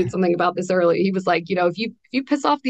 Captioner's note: laughs